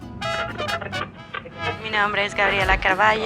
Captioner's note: static crackling; speaking Spanish